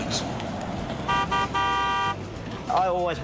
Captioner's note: horn Honking